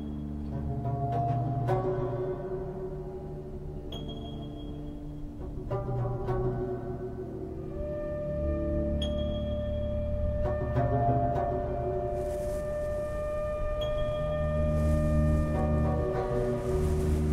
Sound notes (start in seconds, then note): 11.9 grasses rustling